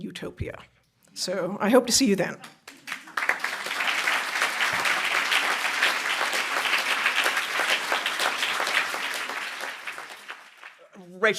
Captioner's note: applause